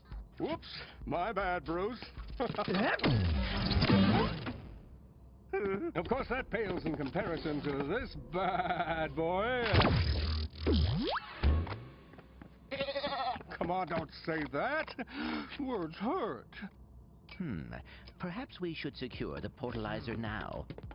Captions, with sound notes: Whoops! My bad, Bruce. [laughs] [zapping] [groans weakly] Of course that pales in comparison to this baaaad boy. [zapping] [bleats] Come on, don't say that. Words hurt. Hmm. Perhaps we should secure the Portalizer now.